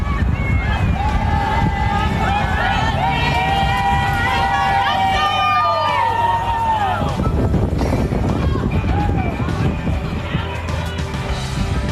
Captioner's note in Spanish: voces